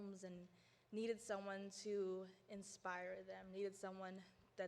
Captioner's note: none